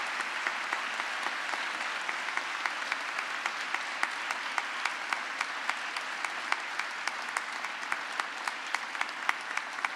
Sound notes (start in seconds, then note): 0.0 applause